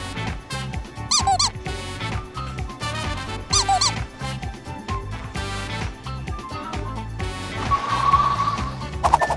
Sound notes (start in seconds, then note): 1.1 comic duck squeaks; 7.5 car wheels accelerating